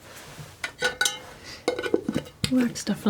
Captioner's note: scratching